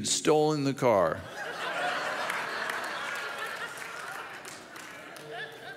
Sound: audience laughs and claps

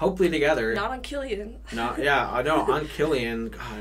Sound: laughs

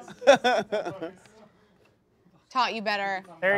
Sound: laughing

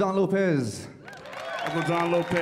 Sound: audience applauding

